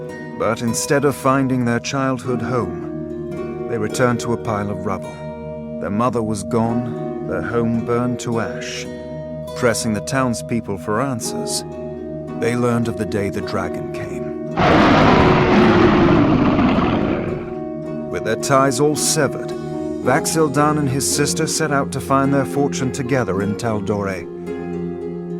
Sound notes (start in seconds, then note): 14.6 roaring